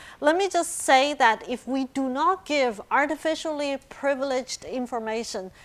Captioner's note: none